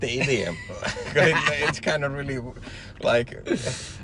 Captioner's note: laughs